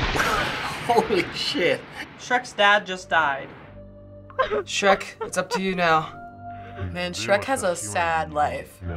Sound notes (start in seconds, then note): 0.2 chuckling; 4.3 Shrek sobbing